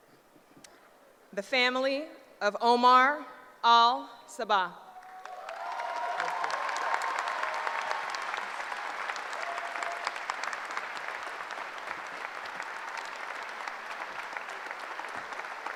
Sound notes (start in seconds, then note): 4.7 applause